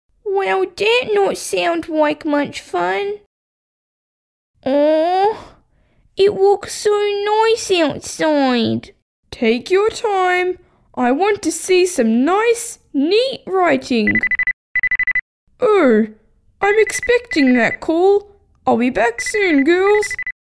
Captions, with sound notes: Well that not sound like much fun Ohhh... It look so nice outside Take your time I want to see some nice, neat writing (Phone rings) Oh, I'm expecting that call I'll be back soon girls